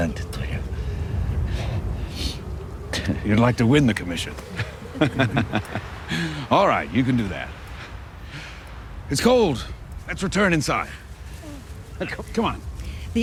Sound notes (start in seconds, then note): 4.0 laughs